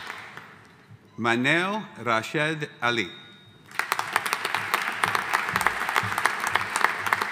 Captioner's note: audience applauding